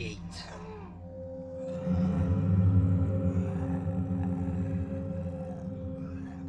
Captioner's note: soft distorted ominous tone; clones snarling